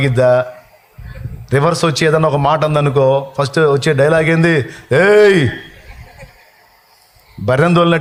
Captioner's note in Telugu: నవ్వు